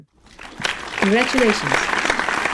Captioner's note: audience applauds